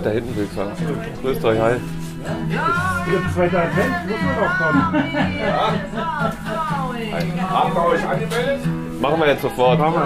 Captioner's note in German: kneipen-begrüssung, geplänkel, etc